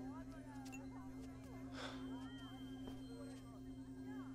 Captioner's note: Sighs